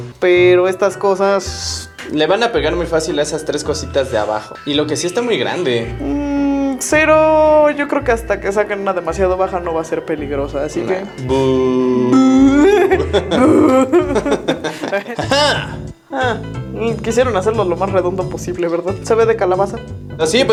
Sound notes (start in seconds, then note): 11.7 booing